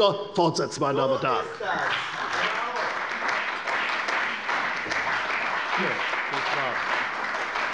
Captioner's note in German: Beifall bei der CDU und dem BÜNDNIS 90/DIE GRÜNEN